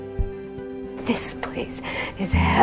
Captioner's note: voiceover